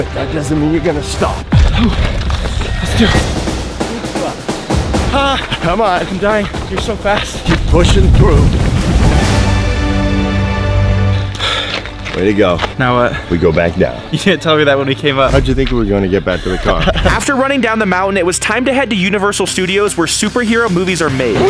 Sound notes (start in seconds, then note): 2.2 intense music; 9.4 intense music; 16.3 laughing